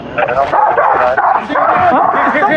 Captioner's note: dogs s babarkining